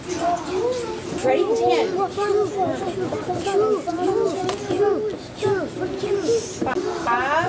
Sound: students discussing answer

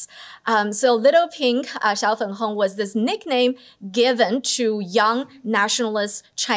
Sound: non-english

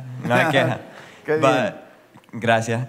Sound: spanish

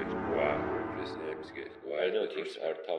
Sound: reversed Voice///

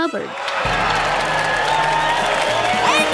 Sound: crowd cheering

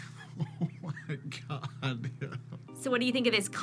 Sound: laughs

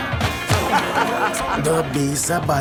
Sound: laughs

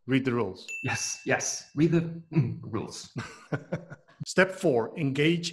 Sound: laughs

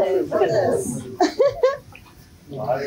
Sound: laugh

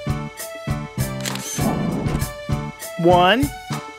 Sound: SFX: Camera Shutter

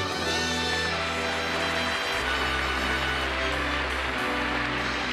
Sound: audience applauding

